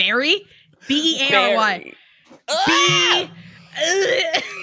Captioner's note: gags; shouts